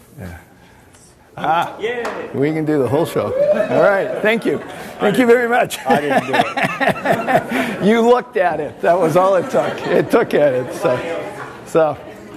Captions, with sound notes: Yeah. Ah! >> Yeah! We can do the whole show. All right. >> [hoots] Thank you. Thank you very much. >> I didn't do it. You looked at it! That was all it took. It took it so- so-